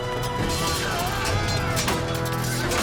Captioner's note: grunting